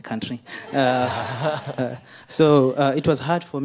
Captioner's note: audience laughing